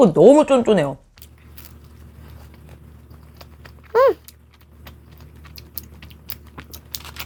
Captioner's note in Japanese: モチモチした咀嚼音 伝わってるかな…♡